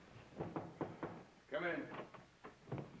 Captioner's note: knocking